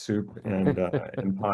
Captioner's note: laughs